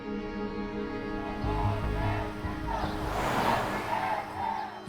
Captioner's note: protesters chanting